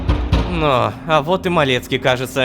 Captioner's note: knocking on door